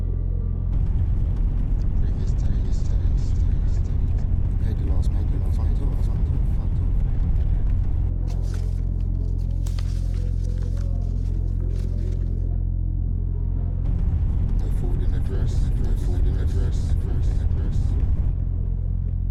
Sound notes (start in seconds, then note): 4.1 voices echoing; 14.4 voices echoing